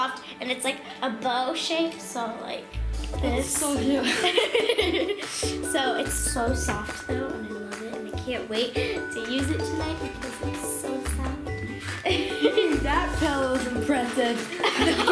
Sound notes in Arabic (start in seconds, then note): 4.0 يضحك; 12.0 الضحك